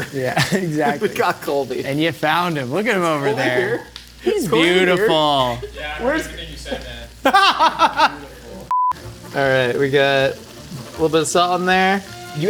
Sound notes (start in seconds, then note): 7.0 laughing; 8.7 tone beeps